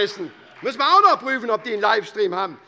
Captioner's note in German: Beifall SPD